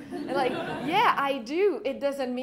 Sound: laughter

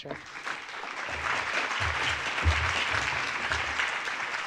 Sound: audience clapping

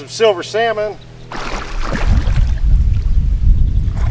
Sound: splash

